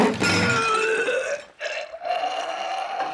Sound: retching

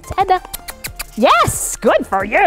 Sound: kissing sounds

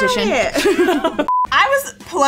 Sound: both laugh

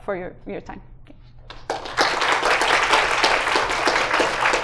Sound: applause

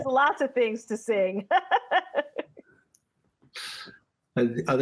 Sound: laughter

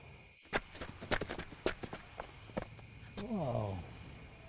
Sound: footsteps running

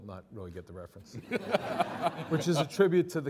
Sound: all laughing

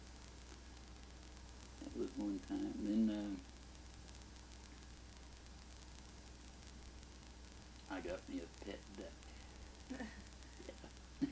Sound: both laugh

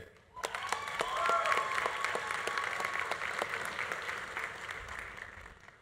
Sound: audience cheering; audience applauding

